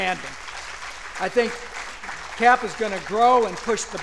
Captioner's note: applause